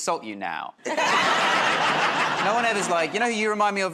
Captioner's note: laughter